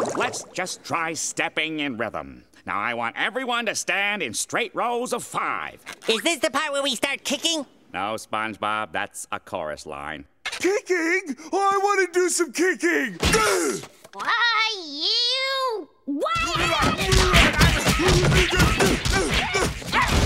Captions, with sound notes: Let's just try stepping in rhythm. Now I want everyone to stand in straight rows of five. Is this the part where we start kicking? No SpongeBob, that's a chorus line. Kicking? Oh, I wanna do some kicking! Why you... Why I oughta... [punching]